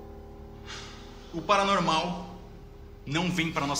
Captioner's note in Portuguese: suspira